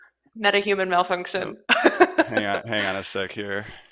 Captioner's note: laughing